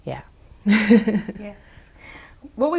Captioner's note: laughs